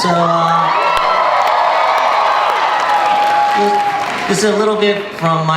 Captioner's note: audience cheers